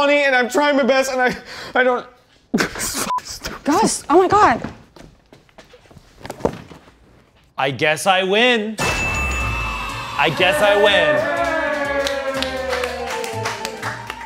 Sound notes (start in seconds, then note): 3.1 beep; 8.8 bell dinging and children cheering